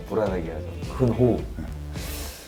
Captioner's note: deep breaths